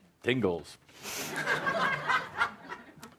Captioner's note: laughter